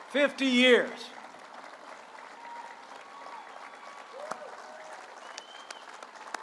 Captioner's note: applause